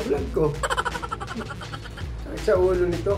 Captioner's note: laugh